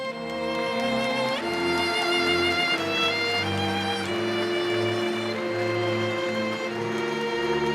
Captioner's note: applause